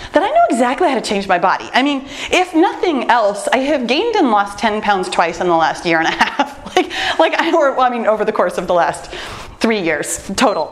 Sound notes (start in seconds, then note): 6.0 laughs